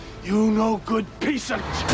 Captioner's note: horn honking